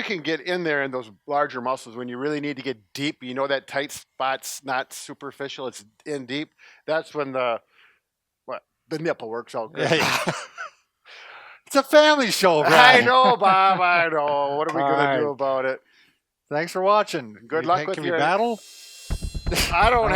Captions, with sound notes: - You can get in there, in those muscles, when you really need to get deep, not superficial, it's deep, that's when the nipple works out great (laughing) _ it's a family show, Brad. Thanks for watching, good luck with your battle- - Take care.